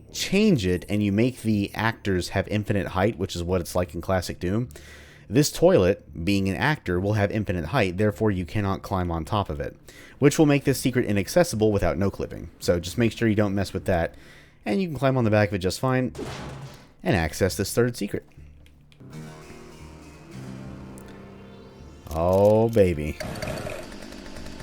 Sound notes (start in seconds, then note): 16.1 crowbar go smash; 19.0 riff plays; 23.2 jackhammer revs to life